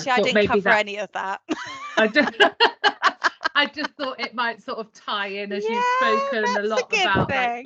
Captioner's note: laughter